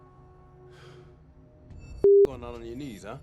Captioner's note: Trevor sighing